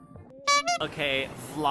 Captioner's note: honk